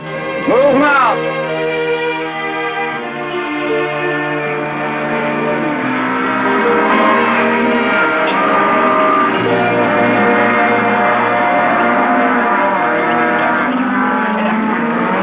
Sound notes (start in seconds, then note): 4.5 cattle mooing; 9.5 mooing continues